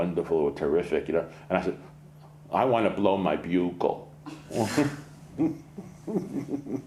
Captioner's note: laughs